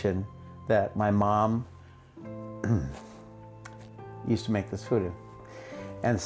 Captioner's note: clears throat